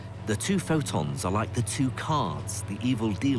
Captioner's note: voiceover